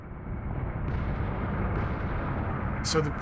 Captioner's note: loud blast